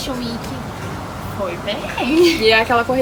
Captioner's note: laugh